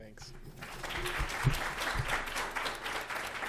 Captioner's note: applause